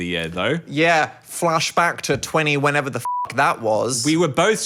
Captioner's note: beep